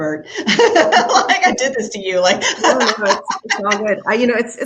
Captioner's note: laughs